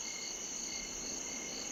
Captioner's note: crickets chirp